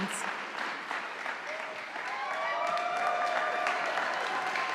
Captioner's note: audience applauding